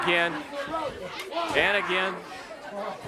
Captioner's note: crowd chatter